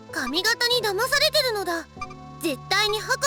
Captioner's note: none